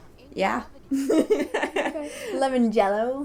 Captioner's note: laughter